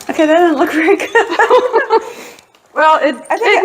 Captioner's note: laughing